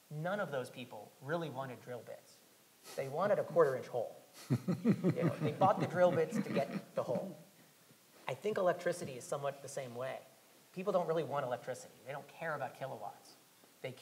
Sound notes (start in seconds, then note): 4.4 panel laughing